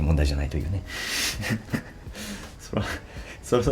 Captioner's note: laughs